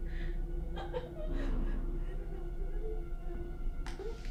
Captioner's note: woman sobbing